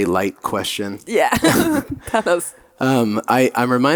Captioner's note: laughing